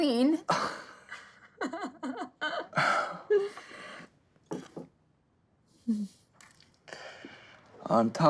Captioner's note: laughing